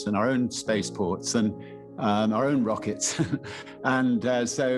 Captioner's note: chuckles